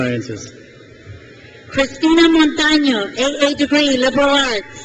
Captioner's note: crowd cheers